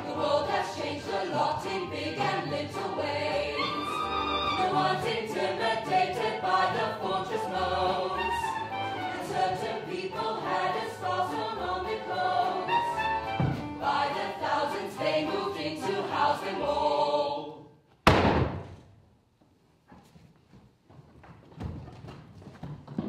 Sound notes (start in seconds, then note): 18.1 table thuds